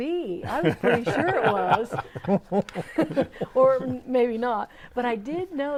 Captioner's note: laughing